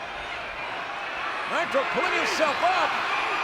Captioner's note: audience cheering